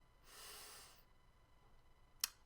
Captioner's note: inhale